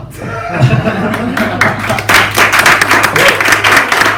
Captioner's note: laughs and applause